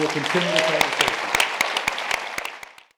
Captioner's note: applause